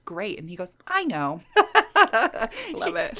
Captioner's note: laughing